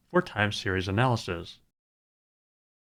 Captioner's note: none